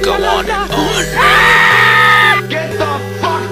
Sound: girl Screams

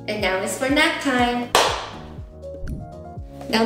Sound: clap

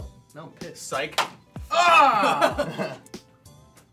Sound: laughing

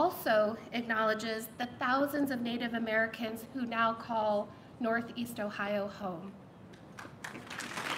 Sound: applause

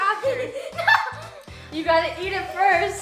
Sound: laughing

